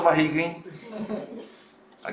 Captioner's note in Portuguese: risos